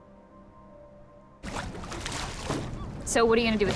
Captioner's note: water splashing